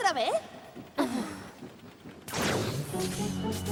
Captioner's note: sighs